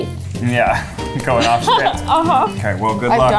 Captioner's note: laughs